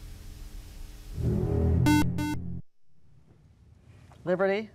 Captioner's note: buzzer